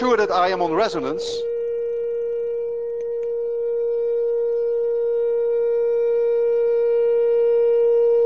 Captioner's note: high tone continues, becomes louder